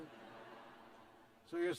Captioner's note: laughter